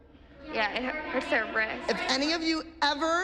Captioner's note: chatter